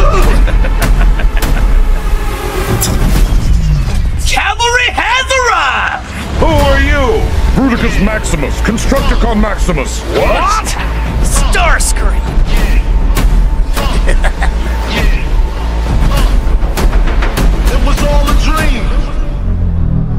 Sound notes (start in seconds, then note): 0.0 starscream laughs; 13.8 starscream laughs